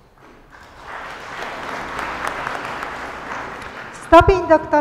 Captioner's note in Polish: oklaski